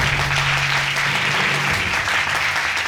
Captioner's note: audience applauds